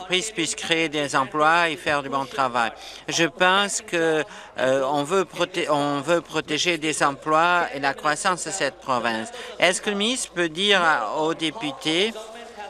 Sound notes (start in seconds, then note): none